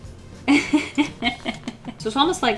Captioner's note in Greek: Γέλια